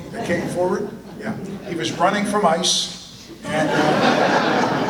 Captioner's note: audience laughter